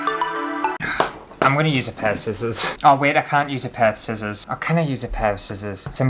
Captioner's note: sigh